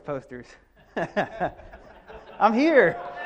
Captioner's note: audience and speaker laughs